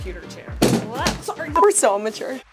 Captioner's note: luggage crashes